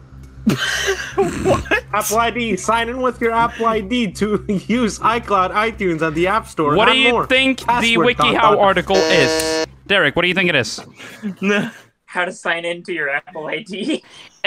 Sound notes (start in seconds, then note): 0.5 laughing; 8.9 buzzes